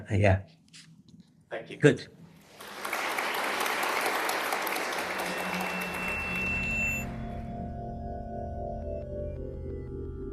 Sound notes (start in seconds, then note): 2.4 applause; 4.8 drone-like music